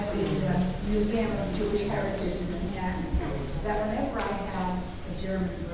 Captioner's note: speaking off mic and muffled